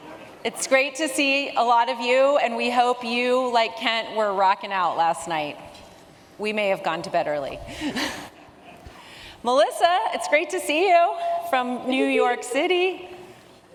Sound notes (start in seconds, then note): 7.9 chuckles